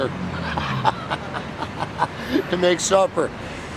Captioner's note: laughing